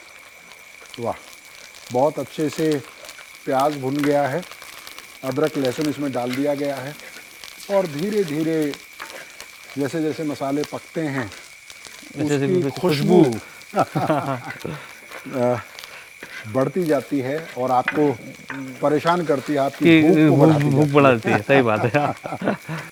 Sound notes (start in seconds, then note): 12.0 laughs